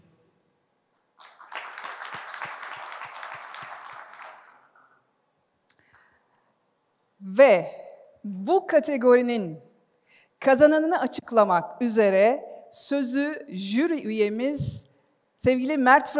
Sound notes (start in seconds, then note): 1.1 applause